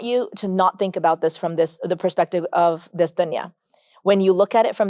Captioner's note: speaks Arabic